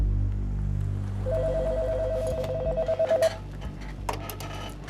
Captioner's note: phone rings